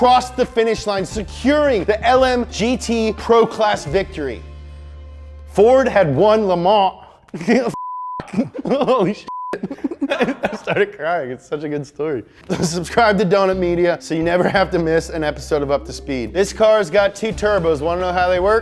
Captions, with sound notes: the finish line, securing the LMGT pro-class victory. Ford had won Le Mans. (laughs) (beeps) Holy sh**. I started crying, it's such a good story. Subscribe to Donut Media so you never have to miss an episode of Up to Speed. This car has got two turbos, want to know how they work?